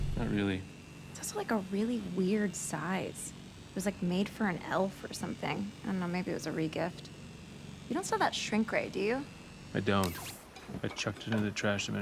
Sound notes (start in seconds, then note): 10.0 sword whirs